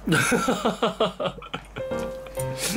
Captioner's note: laughter